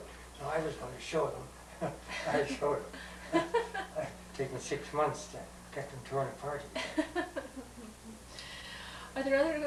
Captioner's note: laughter